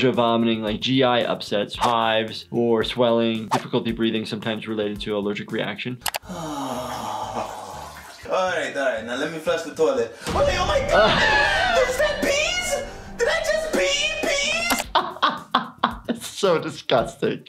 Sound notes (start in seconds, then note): 14.6 laughs